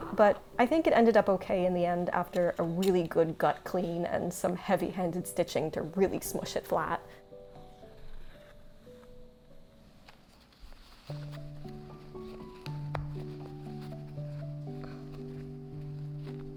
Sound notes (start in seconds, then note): 7.7 bright piano music; 7.7 fabric rustling